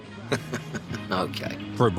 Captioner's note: laughing